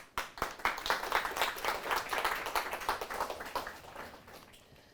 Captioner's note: applause